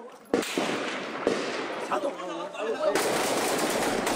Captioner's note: gun fire